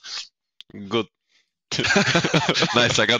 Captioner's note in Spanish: Risas